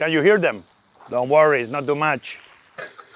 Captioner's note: vegetables sizzling